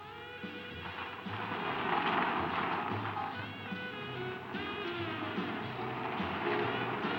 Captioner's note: uptempo jazz music; car engine roaring